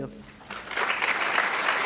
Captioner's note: applauds